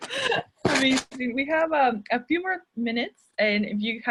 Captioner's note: chuckles